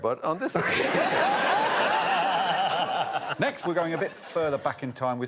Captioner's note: laughter